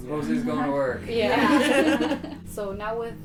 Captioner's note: all laughing